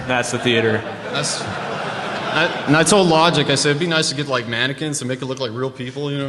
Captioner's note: laughter